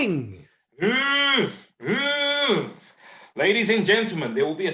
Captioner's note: making alarm sound